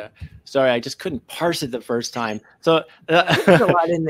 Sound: laughs

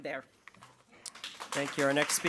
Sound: audience clapping

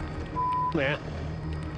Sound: beep

